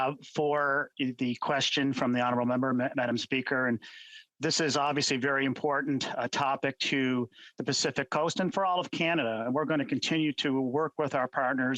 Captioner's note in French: voix de l'interprète